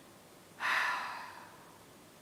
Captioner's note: sigh!